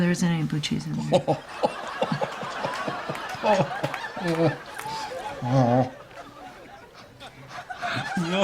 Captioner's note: laughter